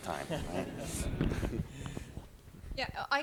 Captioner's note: laughter